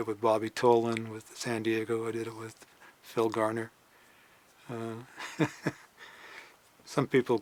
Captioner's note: chuckles